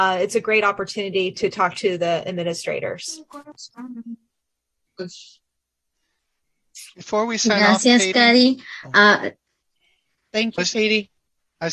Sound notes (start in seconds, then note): 10.4 overlapping chatter